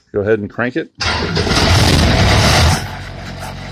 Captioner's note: diesel engine rumbles to life